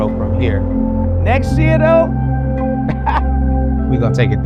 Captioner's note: laughing